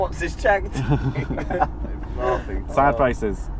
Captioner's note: laughing